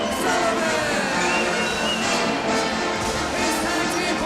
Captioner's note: crowd cheering